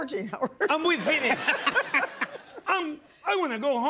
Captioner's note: laughter